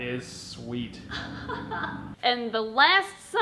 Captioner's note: giggling